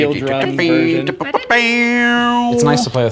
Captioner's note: wil continues humming